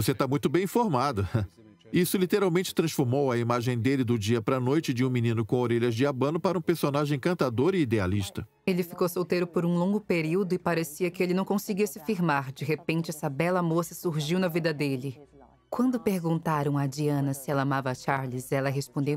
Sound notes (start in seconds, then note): 7.1 voiceover